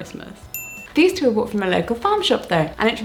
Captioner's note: bell rings